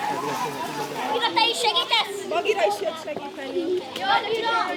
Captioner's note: chatter